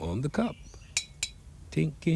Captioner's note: metal clinks